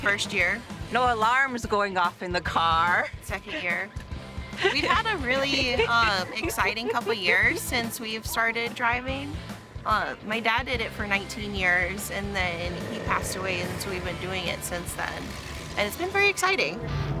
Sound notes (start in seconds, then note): 7.6 laughing